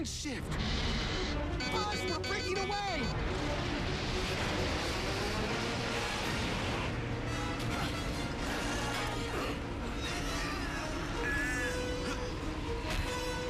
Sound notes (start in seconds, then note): 1.2 beeping; 10.0 grunting